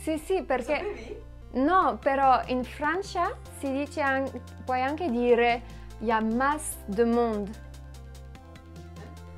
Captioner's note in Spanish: Habla francés